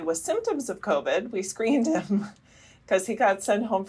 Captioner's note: laughter